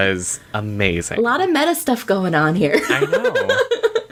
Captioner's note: laughs